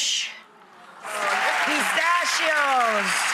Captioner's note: audience cheering